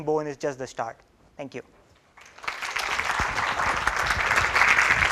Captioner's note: applause